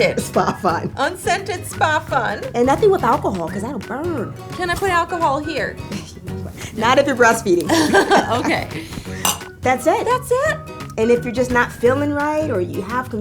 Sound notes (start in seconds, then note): 7.6 laughing